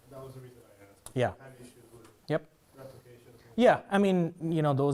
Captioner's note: man speaking faintly off microphone